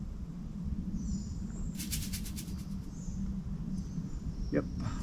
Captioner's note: air swooshes; birds chirping